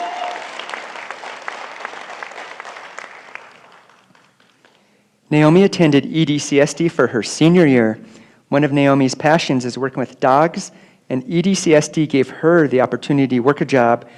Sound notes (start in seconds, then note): 1.5 applause